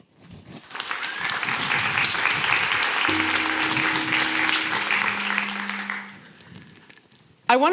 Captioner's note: applause